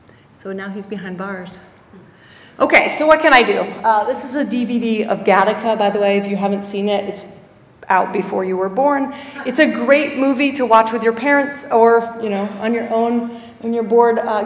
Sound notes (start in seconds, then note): 9.2 laugh